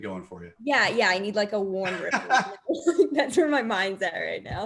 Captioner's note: laughs